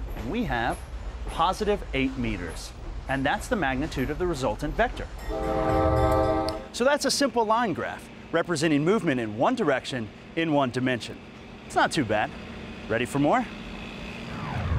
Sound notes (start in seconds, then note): 5.2 train whistle blows